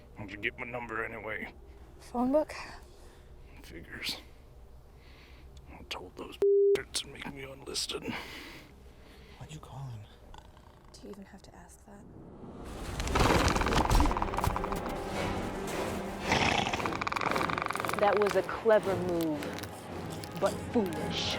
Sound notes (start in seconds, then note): 13.2 snarling